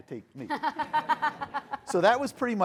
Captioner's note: people laughing